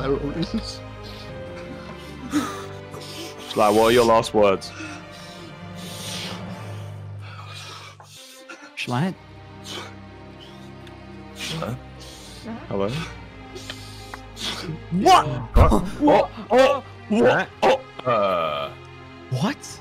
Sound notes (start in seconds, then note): 1.0 sobbing; 5.8 noises of struggling